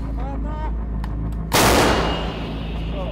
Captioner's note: quiet voices; cracks